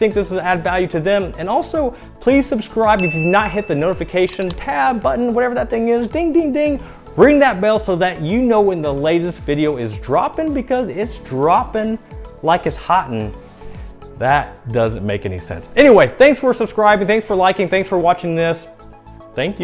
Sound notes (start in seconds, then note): 3.0 ding; 4.2 clicking